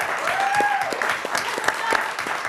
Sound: applause

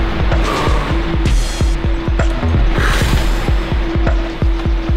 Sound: exhaling

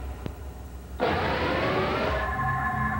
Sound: engine sounds

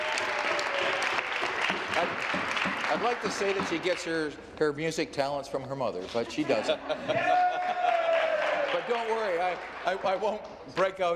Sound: some Applause

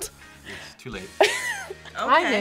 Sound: React laughs

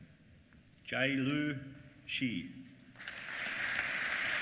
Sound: applause

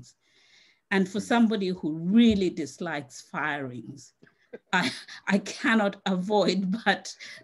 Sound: laughs

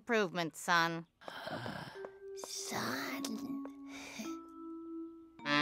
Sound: gasp

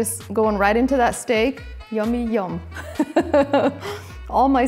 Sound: chuckles

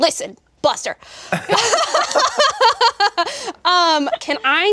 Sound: all laughing

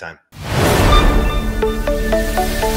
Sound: swoosh

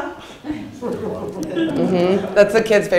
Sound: audience laughs

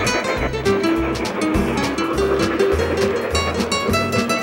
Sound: train chugging

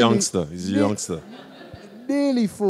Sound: crowd laughs

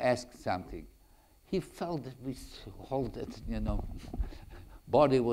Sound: chuckles

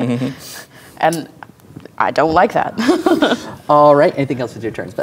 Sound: laughs

